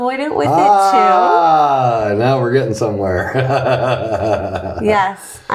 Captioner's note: chuckles